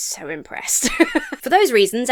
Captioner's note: laughs